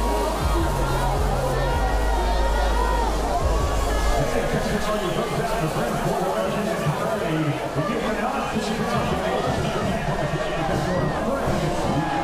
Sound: cheers

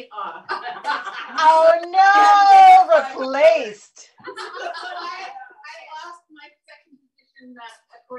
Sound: laughter

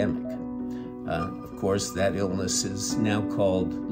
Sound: reverberant tone

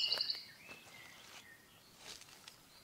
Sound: foot steps

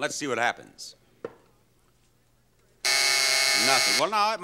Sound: buzzing

